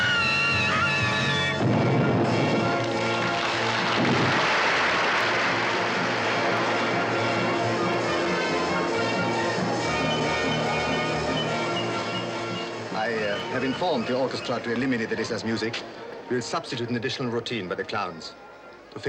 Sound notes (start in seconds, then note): 2.4 audience applauding; 2.7 grand orchestral music